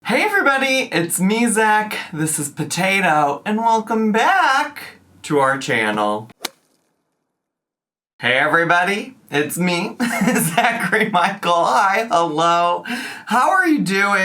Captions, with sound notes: - Hey everybody, it's me, Zach, this is Potato, and welcome back to our channel. (logo thuds) Hey everybody, it's me, Zachary Michael. Hi, hello. How are you doing?